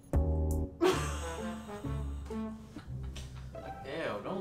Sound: laughing

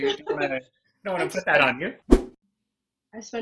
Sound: laughs; whoosh

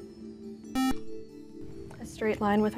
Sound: buzzer

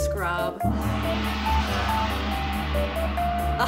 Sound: gong

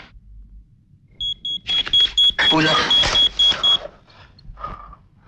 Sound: pager ringing

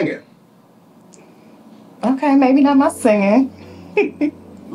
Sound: laughs

